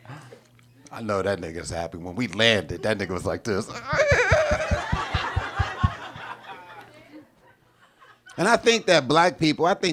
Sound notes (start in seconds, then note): 0.1 chuckles; 3.7 audience laughing; 3.8 tittering